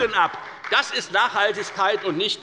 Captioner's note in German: Beifall bei der FDP und bei Abgeordneten der SPD